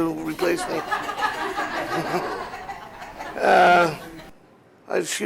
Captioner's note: laughter